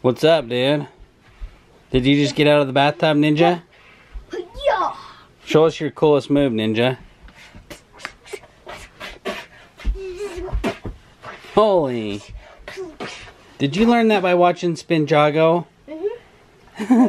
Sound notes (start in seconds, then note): 7.8 makes kung fu sound effects